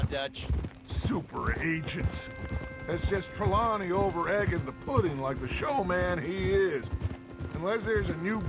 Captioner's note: mocking